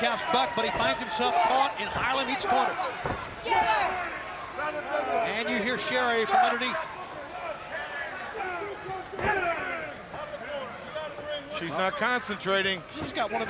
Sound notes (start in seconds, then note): 3.4 crowd chatter